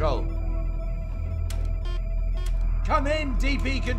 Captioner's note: console beeping; buttons clicking